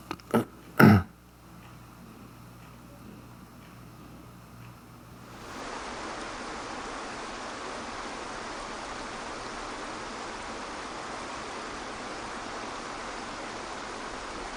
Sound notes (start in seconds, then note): 0.7 clears throat; 5.5 water sloshing